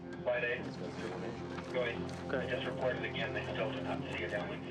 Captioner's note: anxious music; navigators chattering